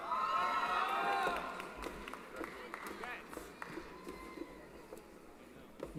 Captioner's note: applause & Cheering